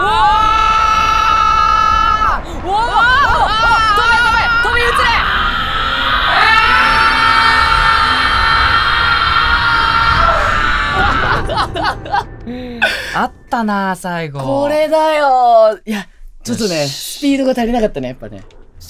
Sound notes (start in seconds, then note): 0.0 screaming continues; 2.6 still screaming; 6.2 screaming slows